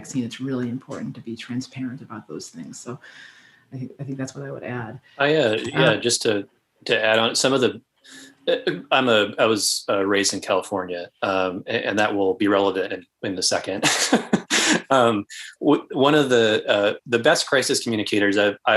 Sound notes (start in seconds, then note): 13.8 laughs